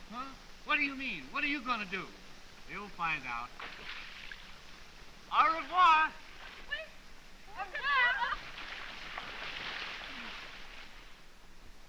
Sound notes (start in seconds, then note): 5.1 bidding farewell in french